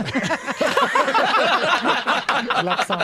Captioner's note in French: rires